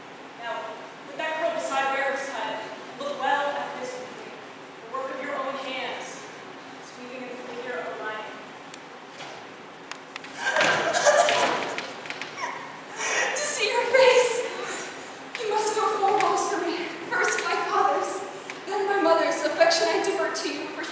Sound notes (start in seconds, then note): 10.2 ELECTRA sobs